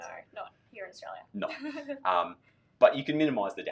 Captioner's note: laughs